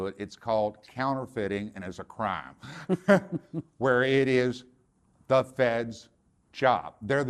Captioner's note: laughter